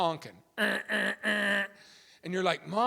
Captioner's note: imitating horn honking